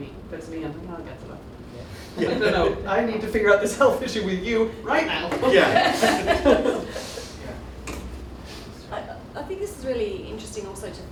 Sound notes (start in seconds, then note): 2.1 laughter; 5.4 laughter